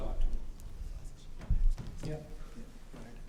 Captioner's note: whispering